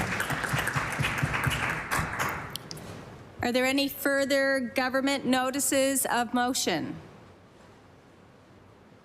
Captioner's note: applause